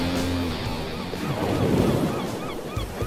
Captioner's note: gulls squawking; waves crashing